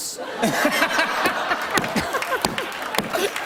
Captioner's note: laughter